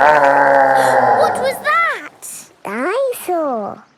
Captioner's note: gasps; growling; laughing